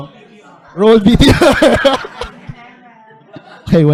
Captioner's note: laughs